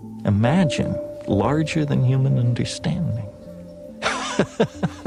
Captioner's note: laughs